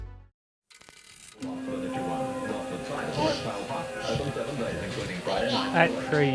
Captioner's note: calm music; baby cooing